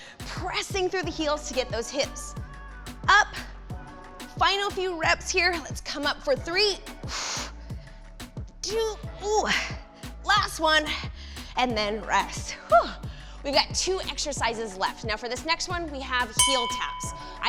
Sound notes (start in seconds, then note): 6.7 exhales harshly